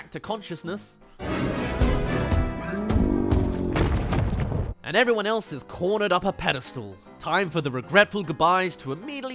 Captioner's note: thud